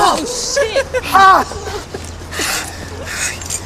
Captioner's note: laughing